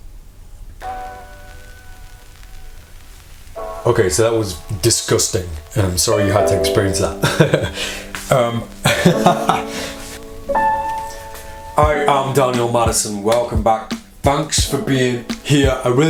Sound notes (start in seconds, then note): 9.6 laughs